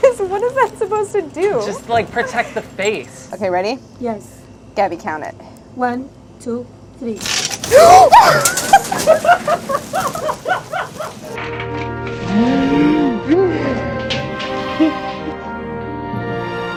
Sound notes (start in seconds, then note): 7.8 gasping; 7.9 laughing; 11.4 dramatic music